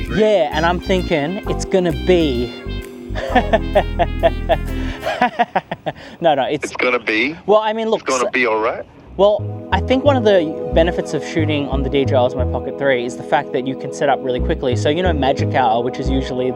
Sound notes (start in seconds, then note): 3.1 laughs